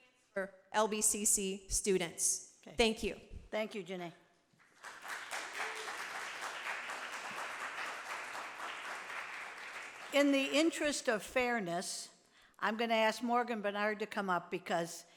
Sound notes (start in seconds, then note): 4.7 audience applauding